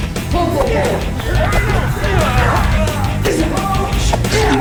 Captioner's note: grunting